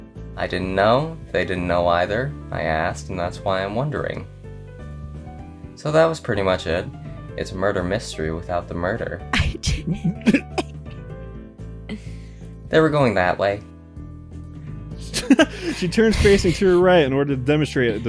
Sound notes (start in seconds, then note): 9.4 snicker; 15.1 cackle